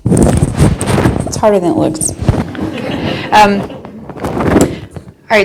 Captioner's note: audience laughing